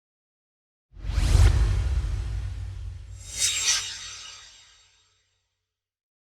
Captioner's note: swoosh